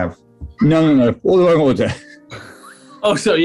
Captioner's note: chuckling